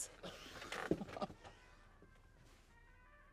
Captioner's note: chuckles